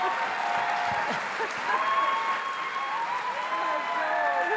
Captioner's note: attendees applauding; attendees cheering